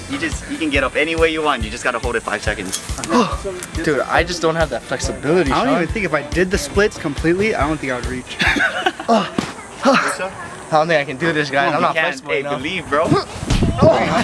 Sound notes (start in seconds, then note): 3.0 huffs; 8.3 laughs; 9.0 huffs; 9.0 groans